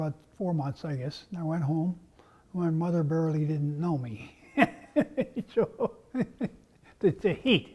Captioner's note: laugh